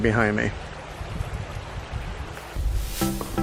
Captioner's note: water splattering; upbeat bright music